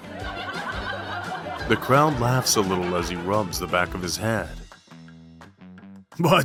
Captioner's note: the crowd laughs a little as he rubs the back of his head